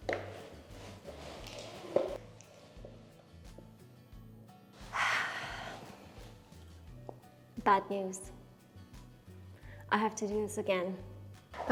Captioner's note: inflating tire, air escaping, long sigh